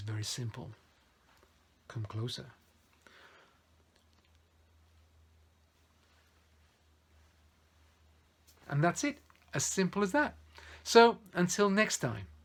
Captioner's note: loss of sound